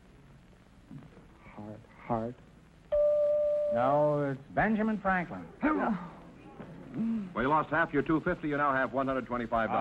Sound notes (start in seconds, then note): 2.8 bell chiming; 5.6 groaning